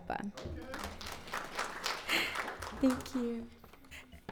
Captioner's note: audience applauds